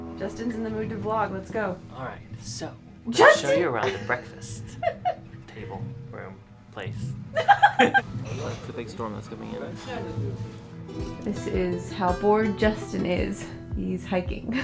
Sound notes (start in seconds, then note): 3.2 laughs; 7.3 both laugh